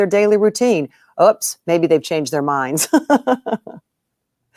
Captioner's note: chuckles